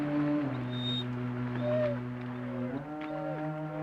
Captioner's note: Tambu whimpering